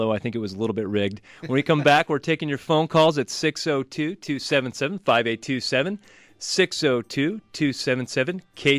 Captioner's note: laughs